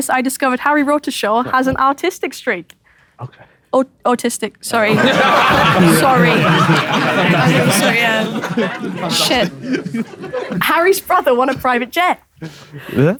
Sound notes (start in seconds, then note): 5.1 people in room laughing